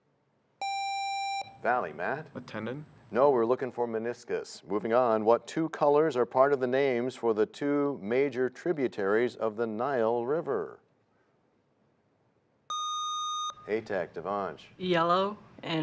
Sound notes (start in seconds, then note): none